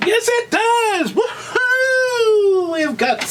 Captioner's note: narrator shouts